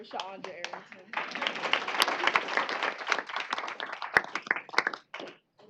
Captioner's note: applause